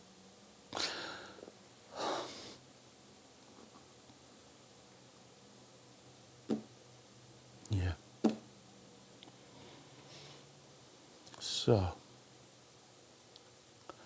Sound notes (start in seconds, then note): 0.8 deep breath sigh; 8.2 taps table